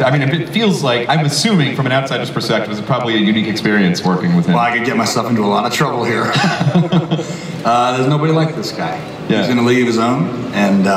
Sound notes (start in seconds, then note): 6.1 laughing